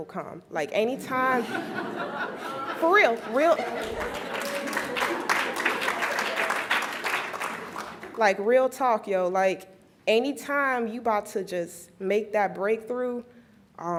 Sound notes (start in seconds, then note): 5.8 laughs; 6.6 applauds